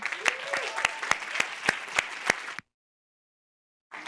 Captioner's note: applause